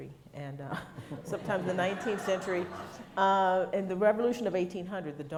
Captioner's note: laughs